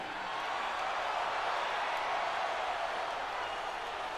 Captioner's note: crowd cheers